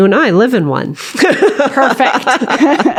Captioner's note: laughter